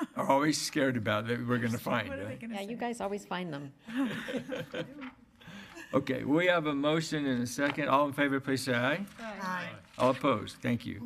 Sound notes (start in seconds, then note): 3.9 laughing